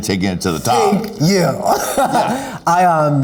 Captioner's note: laughing